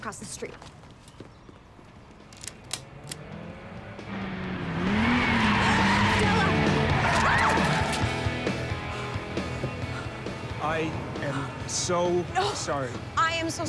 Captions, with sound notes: HERE, I'LL GO PUT SOME ACROSS THE STREET. [STAPLER CLACKS AS CAR ENGINE ROARS] STELLA! [YELPS AS TIRES SCREECH] I AM SO SORRY!